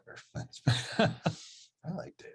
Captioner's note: both chuckles